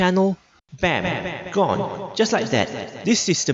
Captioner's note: echo effect